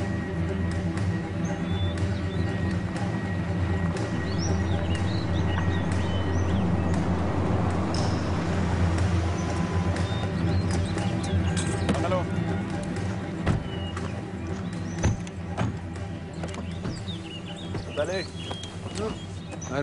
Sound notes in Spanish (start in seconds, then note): 1.5 Ruido del auto